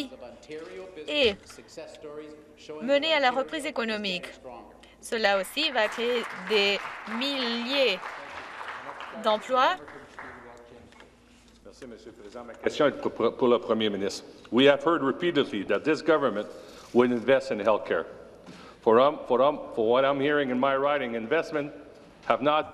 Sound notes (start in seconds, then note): 8.1 some Applause; 14.8 speaking French